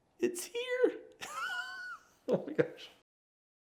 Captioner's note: laughing